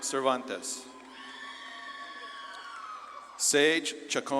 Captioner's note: audience claps and cheers